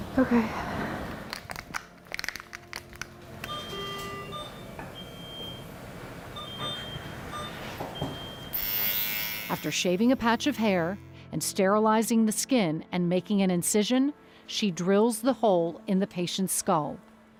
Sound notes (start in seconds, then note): 0.1 sighs; 3.8 machine beeping; 8.6 shaver whirring